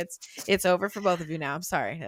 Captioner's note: laughing